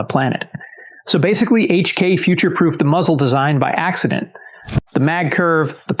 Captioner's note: whoosh